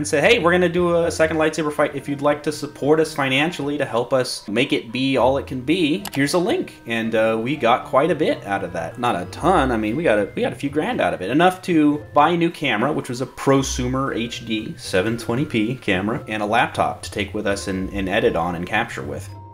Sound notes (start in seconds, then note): none